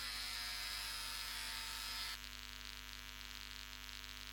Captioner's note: razor buzzing